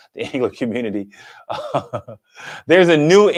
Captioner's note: chuckles